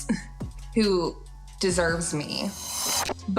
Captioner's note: chuckles